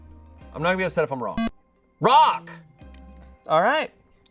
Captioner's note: electronic beep